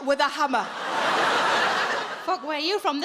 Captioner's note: audience laughs